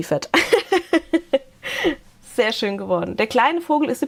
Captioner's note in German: Gelächter